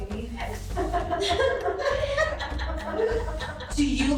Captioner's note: laughing